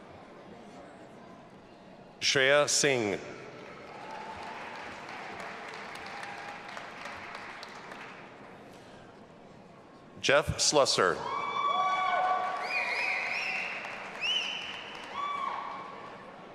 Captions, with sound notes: Shreya Singh. (audience applauding and cheering) Jeff Slusser. (audience applauding and cheering)